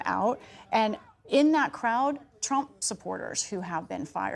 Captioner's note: crowd chanting